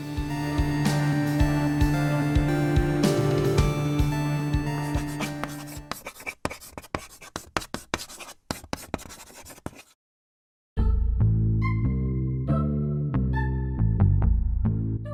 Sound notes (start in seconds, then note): 6.3 chalk writing on a chalkboard; 10.8 funky, low key bass line